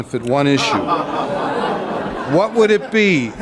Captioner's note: crowd groans